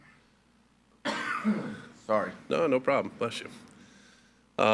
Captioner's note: coughs